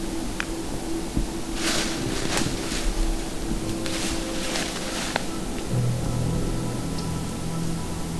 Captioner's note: sound of leaves